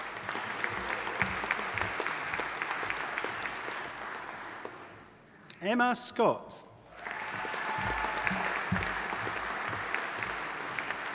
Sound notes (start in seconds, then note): 0.0 audience applauding; 6.9 audience applauding